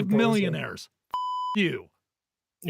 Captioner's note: beep